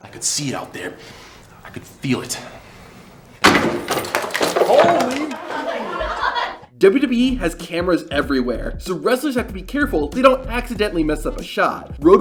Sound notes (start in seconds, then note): 3.4 shelf breaking; 5.1 laughter off-camera